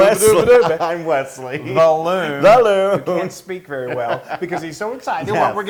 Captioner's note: laugh